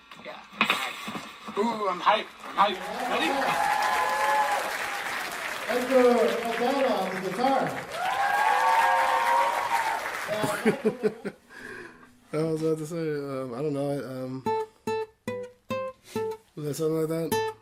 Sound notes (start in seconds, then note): 3.1 audience cheers and applauds; 8.1 audience cheers and applauds; 10.2 laughs; 14.2 guitar strings plucking melodically